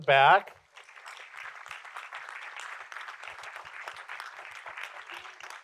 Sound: audience applauding

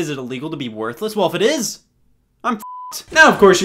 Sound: beep

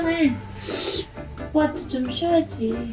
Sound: sighing

